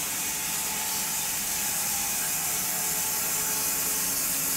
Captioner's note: machine sawing